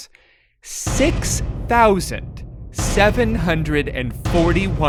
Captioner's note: ominous banging